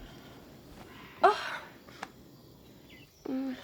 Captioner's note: sighing